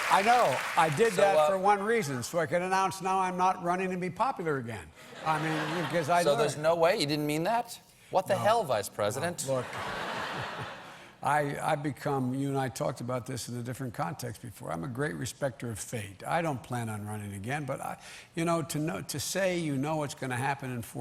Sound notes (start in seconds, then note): 5.1 laughter